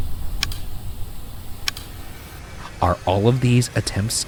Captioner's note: camera clicking